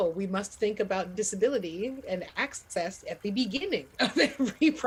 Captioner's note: laughing